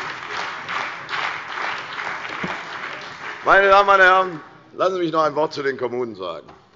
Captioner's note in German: Heiterkeit und Beifall bei der CDU und dem BÜNDNIS 90/DIE GRÜNEN